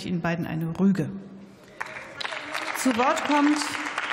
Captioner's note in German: Beifall